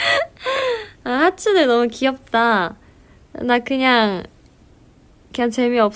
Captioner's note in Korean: 헉 소리